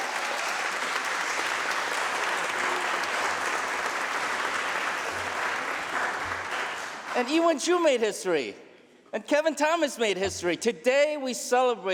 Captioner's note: applause